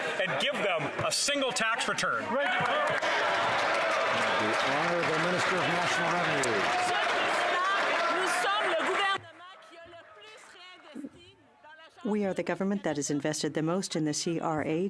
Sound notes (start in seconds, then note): 5.6 some Applause